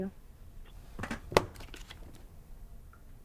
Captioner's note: laptop slams shut